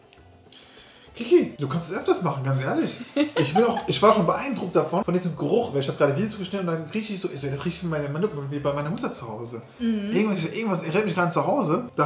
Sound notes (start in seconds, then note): 3.0 laughing